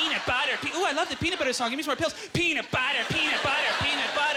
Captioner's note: audience laughter